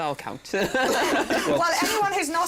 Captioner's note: chuckles